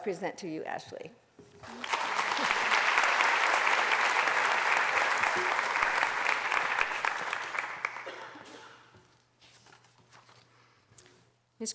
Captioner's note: applause